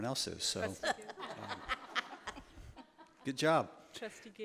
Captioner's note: laughter